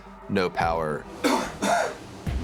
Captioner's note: coughs